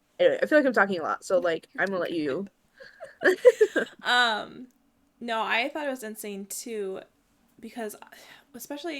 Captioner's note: both laugh